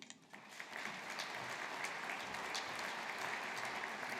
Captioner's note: audience applauding